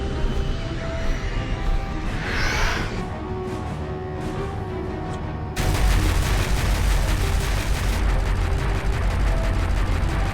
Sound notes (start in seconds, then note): 0.2 dramatic music; 5.6 turret fires